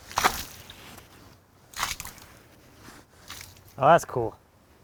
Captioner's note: splashing